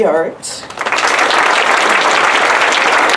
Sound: applause

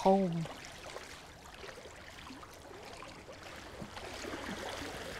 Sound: water lapping rocks

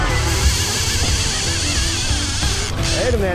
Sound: reel clicking

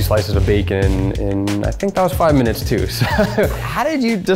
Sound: laughs

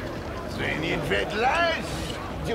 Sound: in french

